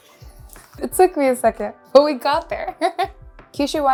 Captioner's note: laughs